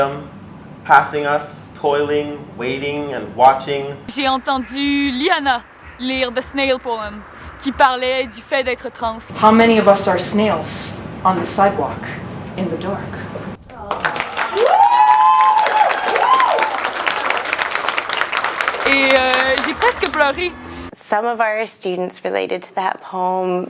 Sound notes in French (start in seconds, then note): 17.7 Applaudissements